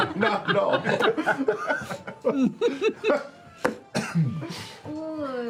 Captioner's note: laughter